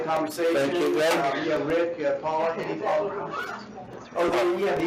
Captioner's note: indistinct chattering